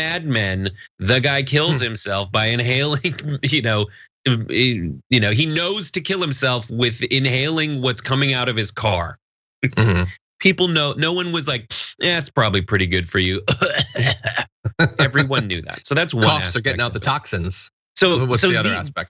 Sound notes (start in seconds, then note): 13.4 laugh